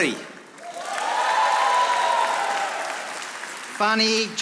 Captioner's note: audience applauding